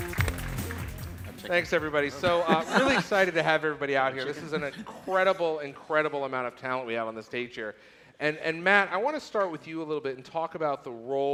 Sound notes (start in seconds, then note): 0.0 applause